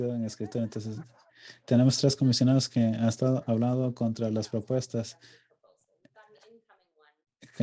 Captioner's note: lauging